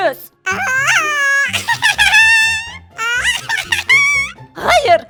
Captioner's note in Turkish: Gülme sesi